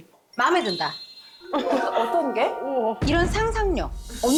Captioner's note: questioning sound effect